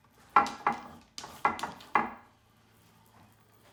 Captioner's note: wood clacking